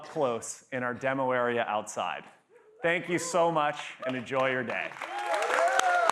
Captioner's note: applause